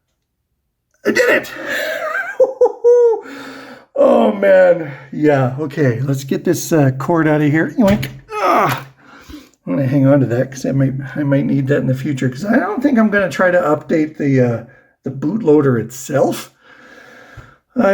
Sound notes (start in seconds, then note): 1.1 laughs; 8.3 grunts